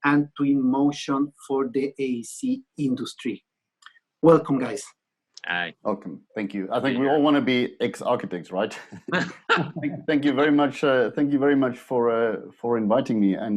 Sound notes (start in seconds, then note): 8.7 laughter